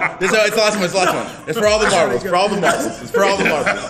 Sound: laugh

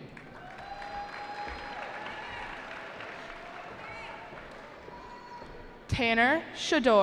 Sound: cheering

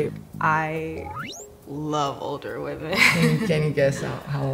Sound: chuckles

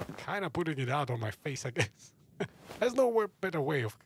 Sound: laughs

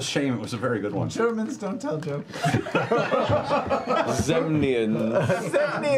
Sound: laughter

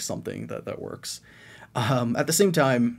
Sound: chuckles

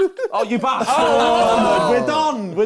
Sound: crowd booing

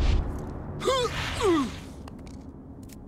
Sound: grunting

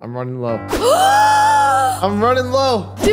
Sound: gasps

